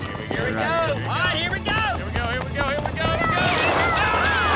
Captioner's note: cheering